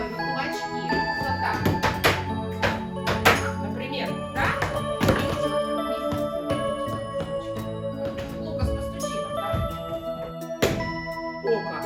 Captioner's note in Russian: стучит